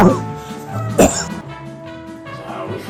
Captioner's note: cough